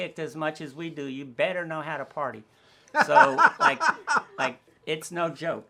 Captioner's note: laughing